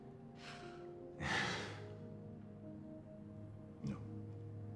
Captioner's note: Jim laughs